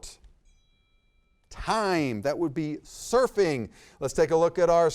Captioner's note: bell dings